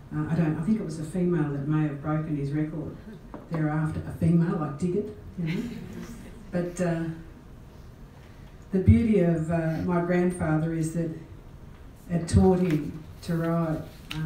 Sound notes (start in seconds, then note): 5.4 laugh